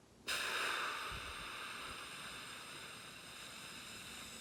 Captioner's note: exhaling